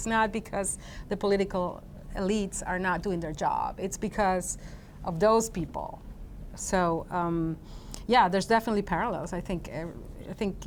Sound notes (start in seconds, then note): none